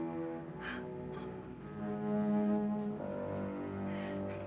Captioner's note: person gasping